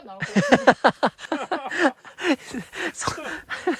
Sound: laughing

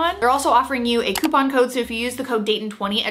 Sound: mouse clicks

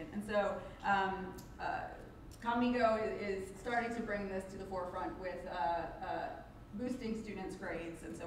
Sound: none

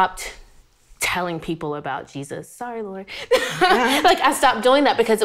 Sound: laughs

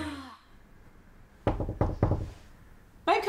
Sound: knock on door

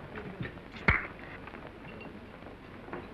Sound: pop

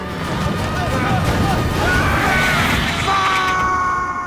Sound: scream

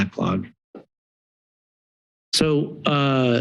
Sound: pause

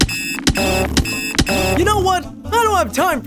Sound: object beeping

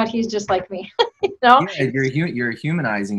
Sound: laughing

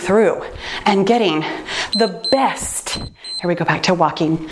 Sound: timer beeps

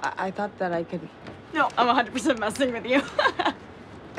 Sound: laughs

